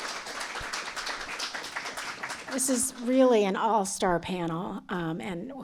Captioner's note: applause